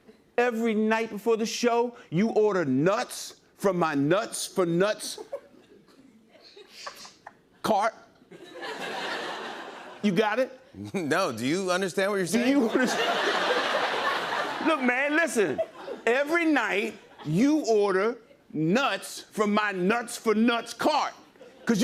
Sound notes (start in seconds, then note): 12.4 laughter